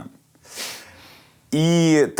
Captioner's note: chuckles